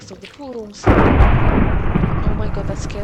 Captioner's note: loud ass thunder